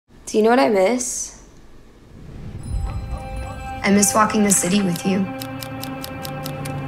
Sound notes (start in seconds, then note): 2.6 bell rings; 5.4 shutter clicks